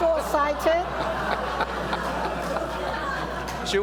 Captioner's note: laughter